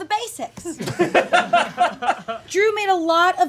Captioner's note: audience laughing